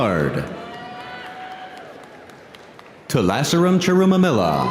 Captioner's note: audience cheering; audience applauding